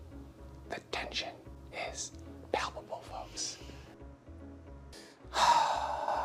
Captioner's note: whispering